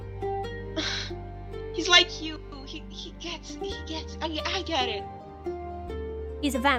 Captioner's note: sigh